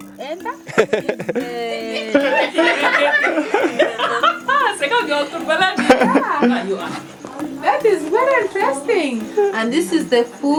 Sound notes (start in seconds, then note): 1.2 laughing; 6.0 speaking in foreign language